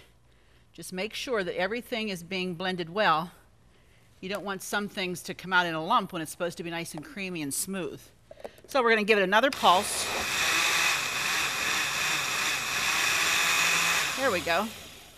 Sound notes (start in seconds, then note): 9.5 blender buzzes